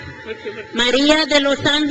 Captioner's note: crowd cheers